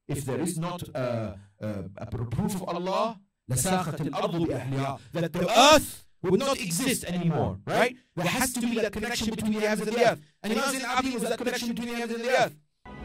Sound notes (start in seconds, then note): 3.4 Arabic